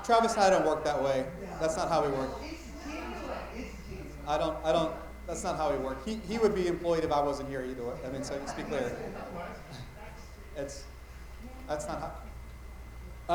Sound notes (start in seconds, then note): 2.7 light chatter